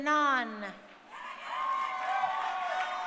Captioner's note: crowd cheering